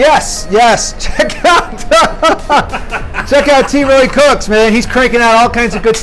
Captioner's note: laughter